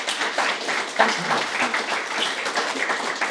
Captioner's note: applause